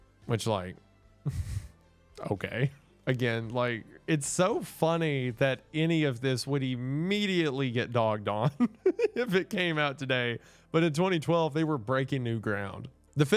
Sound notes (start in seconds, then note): 1.2 chuckles; 8.5 laughs